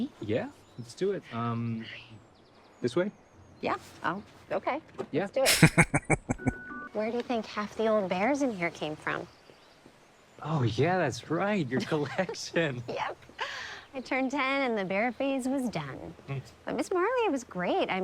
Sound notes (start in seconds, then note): 5.4 laughing